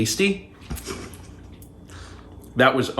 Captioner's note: laughing